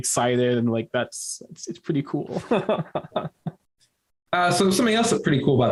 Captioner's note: laughing